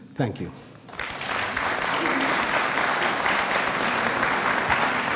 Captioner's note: audience applauds